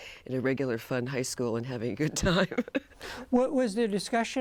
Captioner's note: laughs